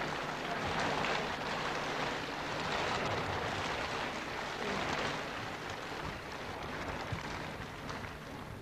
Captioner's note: applause on shri mataji's arrival